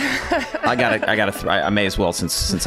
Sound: Megan laughs

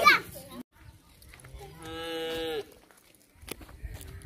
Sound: cow mooing

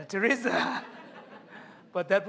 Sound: laughter

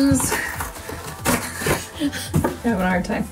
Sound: ripping open package

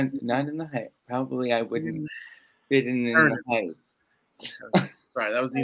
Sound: laughs

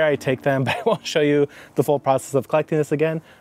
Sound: laughs

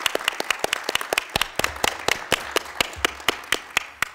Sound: applause

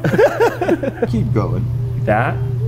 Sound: laughs; coughs

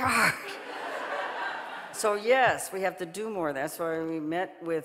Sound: audience laughing

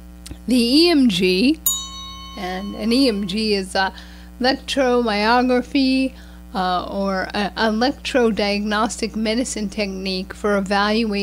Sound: bell sound

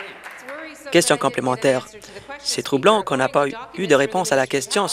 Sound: applause

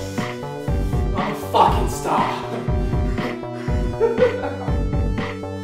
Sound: laughs

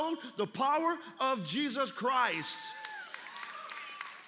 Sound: applause

